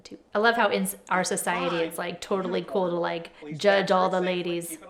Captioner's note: instructor faintly speaks